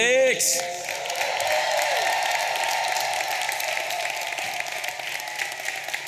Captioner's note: audience applauding and cheering